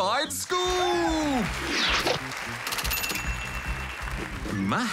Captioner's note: applause